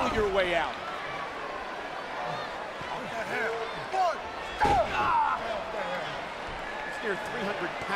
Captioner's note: applause